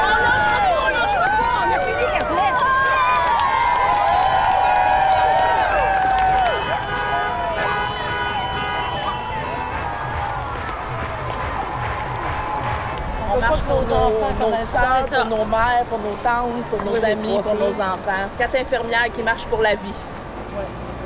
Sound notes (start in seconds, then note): 0.0 woman cheering in French; 3.8 cheering; 8.8 honking